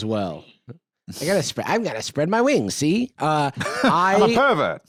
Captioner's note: Transatlantic accent